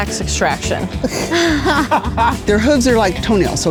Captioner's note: group laughs